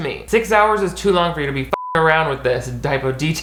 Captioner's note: beep